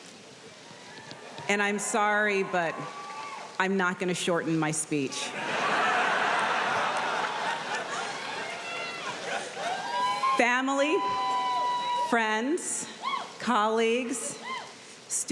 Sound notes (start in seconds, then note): 0.6 audience cheering; 5.2 audience laughing